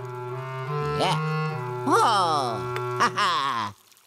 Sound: inquisitive orchestral music; Luigi continues to vocalize

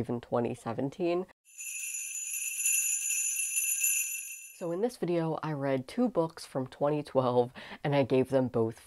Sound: sleigh bells ringing

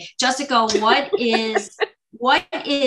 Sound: laughs

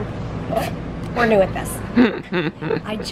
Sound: laughs

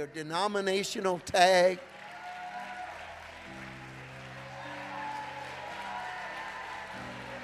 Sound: gentle upbeat music; congregation applauding

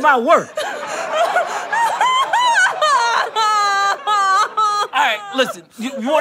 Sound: sobbing intensifies

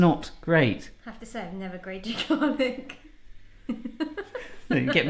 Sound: laughs

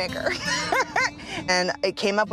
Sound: laughs

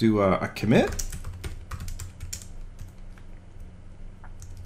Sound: keyboard clicking

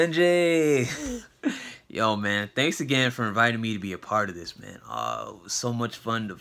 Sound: laughs

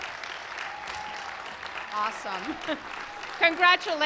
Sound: applause

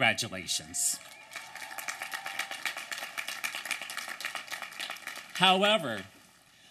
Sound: applause and cheering

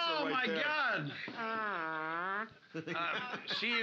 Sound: mimics trombone

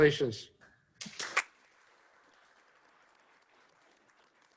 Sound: applause

